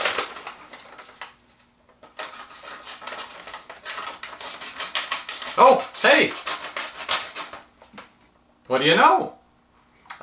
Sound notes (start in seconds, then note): 2.1 cutting noise